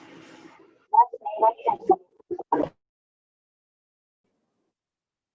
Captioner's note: faintly speaking